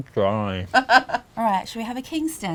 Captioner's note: laughs